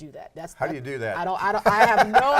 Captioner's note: laughing